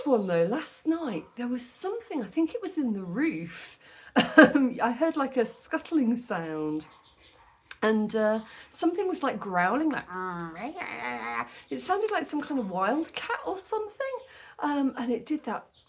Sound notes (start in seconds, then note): 10.3 growl